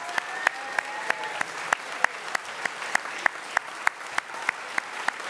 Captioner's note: crowd cheering and applauding